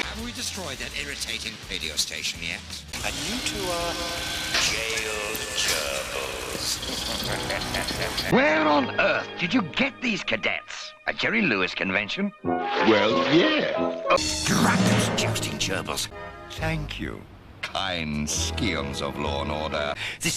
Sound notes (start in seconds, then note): 6.6 evil laughter